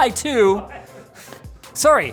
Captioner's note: chuckles